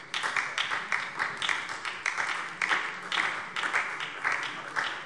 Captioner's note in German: Beifall SPD